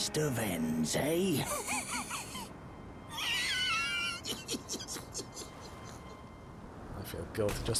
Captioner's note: more wheezing laughter